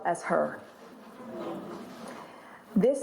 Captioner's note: audience aahing